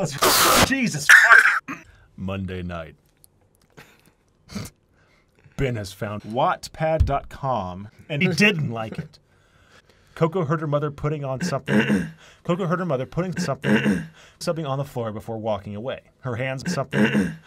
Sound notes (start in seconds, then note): 1.1 cough; 11.4 clears throat; 16.7 clears throat